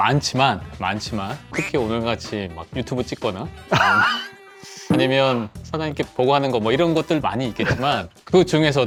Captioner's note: haha